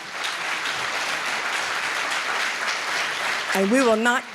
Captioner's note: applause